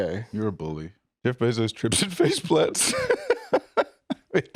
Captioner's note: laughs